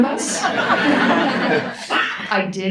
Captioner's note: audience laughs